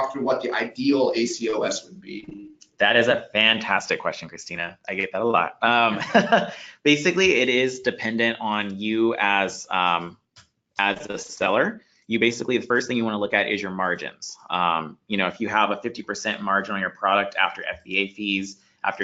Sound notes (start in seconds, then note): 5.6 laughs